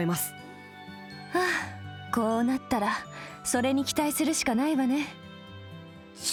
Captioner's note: sigh